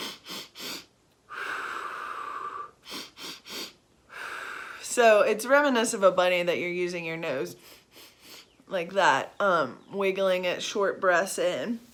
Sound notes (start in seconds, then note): 0.0 exhaling; 1.2 inhaling; 4.0 exhaling; 7.6 inhaling